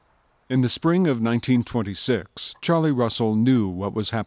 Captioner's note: clock ticking; voiceover